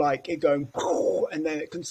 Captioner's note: gasps